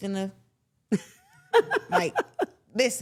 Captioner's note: laughs